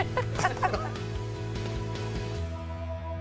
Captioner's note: laughter